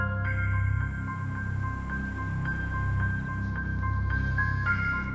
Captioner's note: crickets chirping